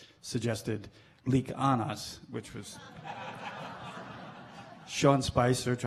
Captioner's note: laughing